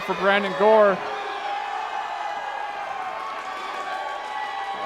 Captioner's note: crowd cheering